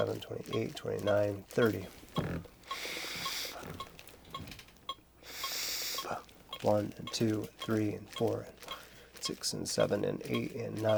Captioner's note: breathing